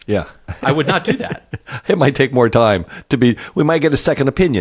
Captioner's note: laugh